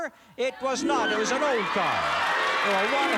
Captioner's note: cheers and applause